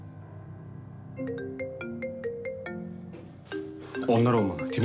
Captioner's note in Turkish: Telefon çalıyor